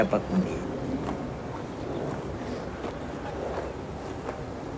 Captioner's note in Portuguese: Som ambiente